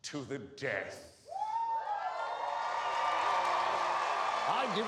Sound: cheers and applause

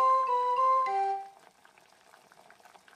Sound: fireplace sound

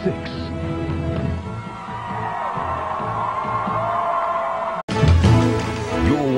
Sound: crowd cheering

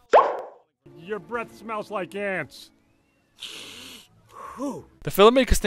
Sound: smells Breath, Exhales

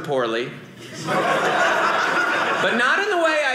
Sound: audience laughing

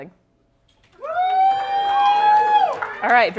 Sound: cheering

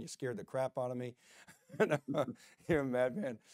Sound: laughs

